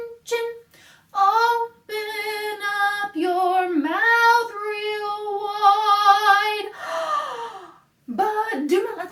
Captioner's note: gasp